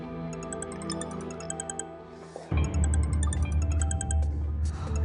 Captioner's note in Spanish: Suena el celular